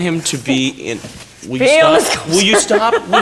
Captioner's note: Marguerite laughing hysterically